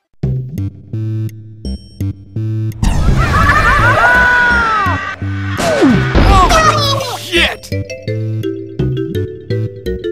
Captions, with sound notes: Somewhere lost in the forest... [All Scream] - Oof! - Oh, shit! - [Inkling noise]